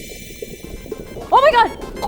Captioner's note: starts drowning; chokes